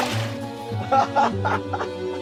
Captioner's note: laughter